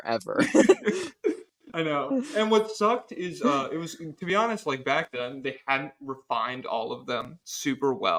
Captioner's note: laughs